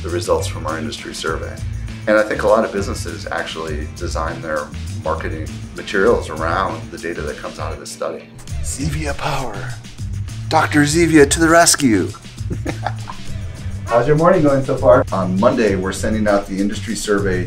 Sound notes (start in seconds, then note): 12.1 chuckles